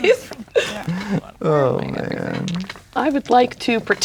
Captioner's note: speaking quietly